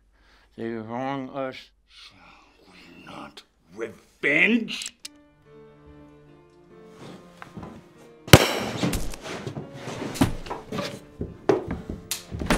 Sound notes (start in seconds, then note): 5.1 dramatic orchestral music; 5.4 gun cocking; 8.3 gunshot popping